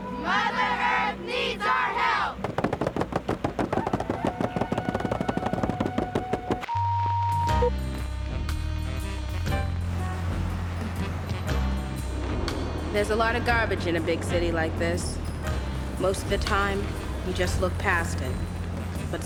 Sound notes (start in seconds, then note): 6.7 beep; 7.9 slow jazz music plays